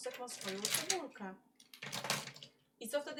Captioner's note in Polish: dźwięk przesuwanych pisaków